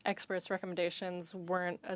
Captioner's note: speaking French